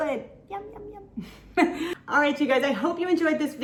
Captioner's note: laughs